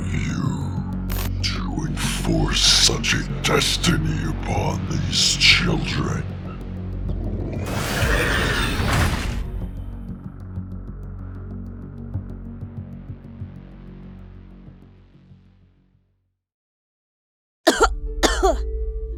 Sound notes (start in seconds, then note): 18.2 cough